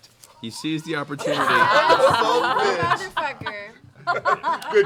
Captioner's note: laughter